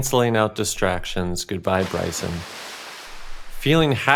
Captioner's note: water splashing